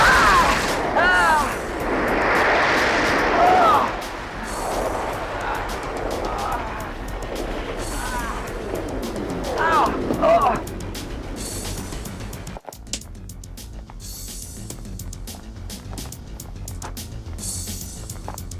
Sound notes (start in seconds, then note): 0.9 Bruce yelping; 3.6 Bruce groaning; 10.6 suspenseful music